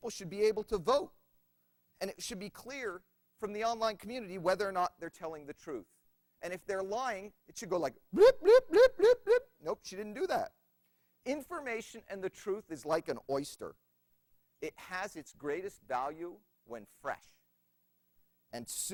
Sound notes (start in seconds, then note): 8.2 makes an alarm sound